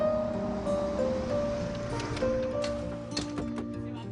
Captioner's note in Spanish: Ruido del carro